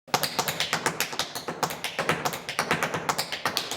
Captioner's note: tap dancing